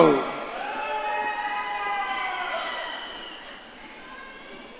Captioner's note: audience cheering